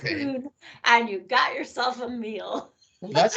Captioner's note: laughing